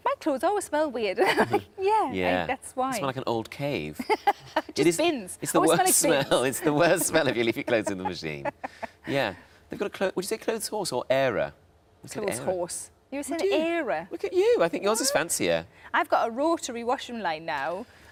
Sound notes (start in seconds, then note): 1.2 laughs; 4.0 laughs; 8.4 Sarah laughs